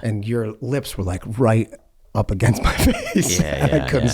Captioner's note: laughs